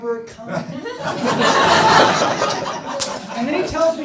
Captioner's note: audience laughing